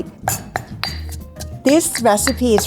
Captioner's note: banging mortar